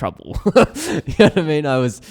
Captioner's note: laughs